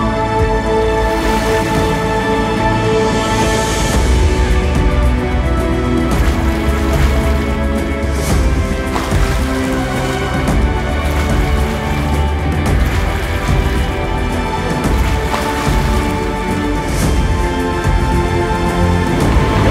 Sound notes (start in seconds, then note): 0.1 dramatic music; 6.2 water splashing; 7.0 dramatic music; 12.9 water splashing; 15.8 dramatic music